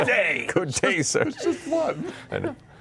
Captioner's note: laughing